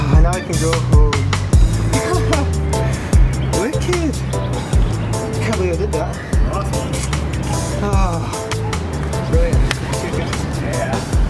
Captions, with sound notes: Now we can go home ha ha Wicked! Can't believe I did that Awsome! (Sigh of exhaustion)